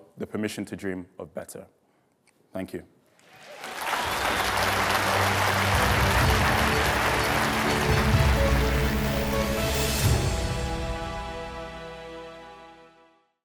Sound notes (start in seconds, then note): 3.2 audience applauding; 4.0 dramatic orchestral music